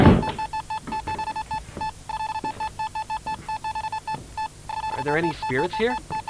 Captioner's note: Bruce searches the room while the EMF reader beeps rapidly